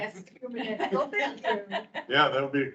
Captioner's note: members laughing